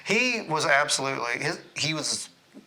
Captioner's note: none